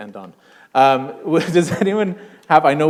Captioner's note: chuckle